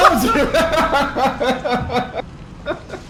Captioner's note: laughs